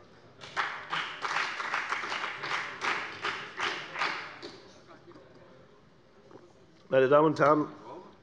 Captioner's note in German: Beifall bei der FDP